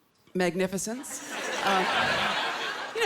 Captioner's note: laughter